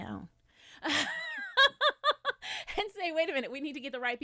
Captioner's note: chuckles